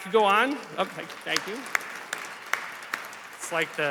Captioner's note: applause